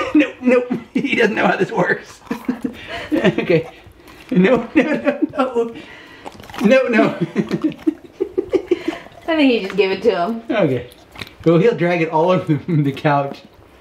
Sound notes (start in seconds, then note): 8.0 laughing